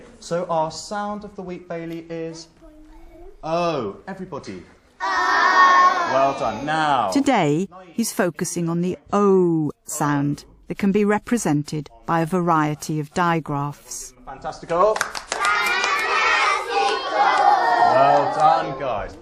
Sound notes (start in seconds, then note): 5.4 shout together